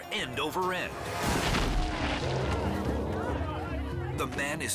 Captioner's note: body thuds